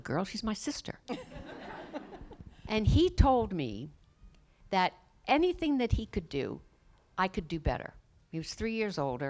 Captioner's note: laughter